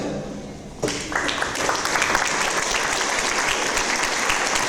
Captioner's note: audience applause